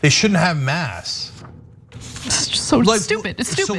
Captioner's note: laugh